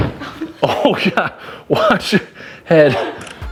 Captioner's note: laughing